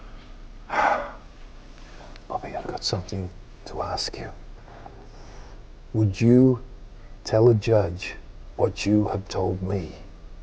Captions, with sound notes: (sighs) Bobby, I've got something to ask you. Would you tell a judge what you have told me?